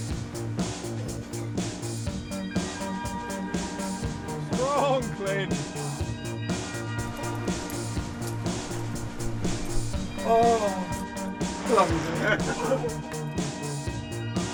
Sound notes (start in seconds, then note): 0.3 upbeat music continues; 7.0 upbeat music continues; 11.5 both laughing